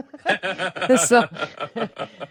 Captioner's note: people laughing